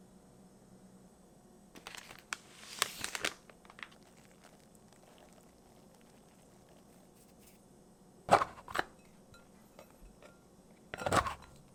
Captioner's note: folding